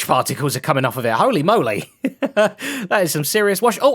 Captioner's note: laughs